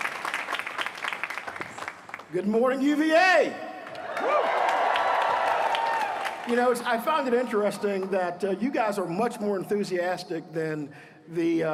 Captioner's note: applause